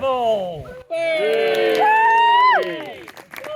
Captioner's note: cheering; applause